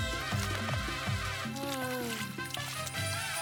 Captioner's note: sigh